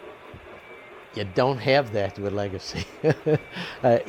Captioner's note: laughs